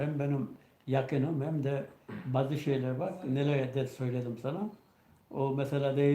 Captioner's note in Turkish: boğazını temizler